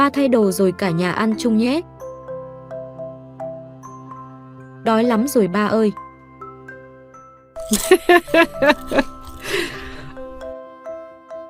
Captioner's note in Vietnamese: Tiếng cười